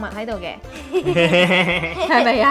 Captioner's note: laughing